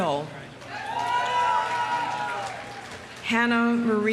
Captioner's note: audience cheering; audience applauding